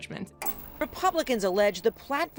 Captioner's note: TV clicking